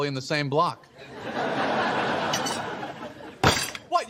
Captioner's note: laugh track